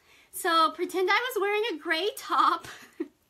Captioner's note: laughs